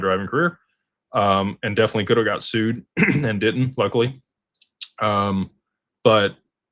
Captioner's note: clears throat